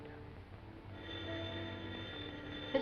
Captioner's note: phone rings